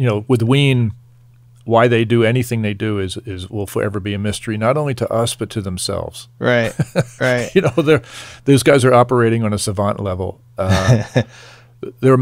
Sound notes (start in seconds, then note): 6.5 laughing